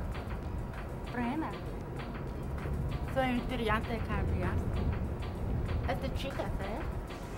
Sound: spanish

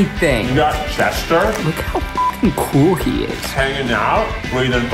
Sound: beep

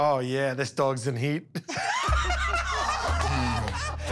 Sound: laughter

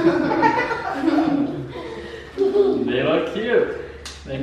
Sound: laughter

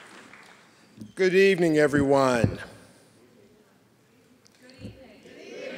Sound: applause

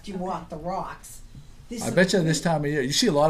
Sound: voiceover

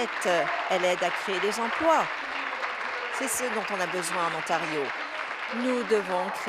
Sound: applause

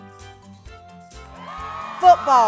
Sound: crowd cheers

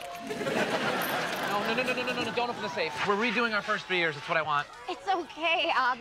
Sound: laugh track

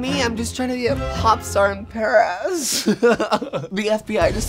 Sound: laughs

